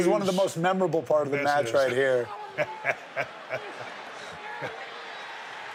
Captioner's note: Steve laughing